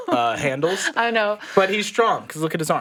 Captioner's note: laughs